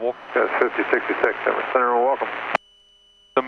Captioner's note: man On Radio